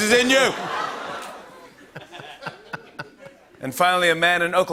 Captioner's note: laughter